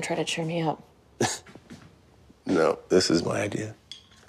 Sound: chuckles

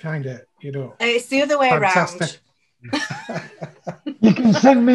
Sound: laughs

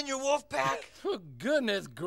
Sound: chuckles

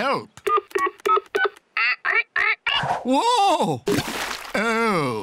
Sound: dial tones beep; imitates dial tones

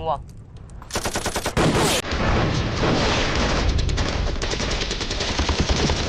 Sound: shooting

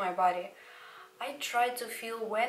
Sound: brEaTh

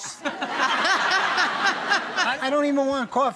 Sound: laughter

